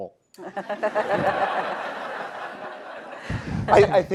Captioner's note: audience laughs